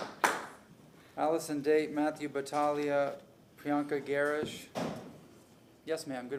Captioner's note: applause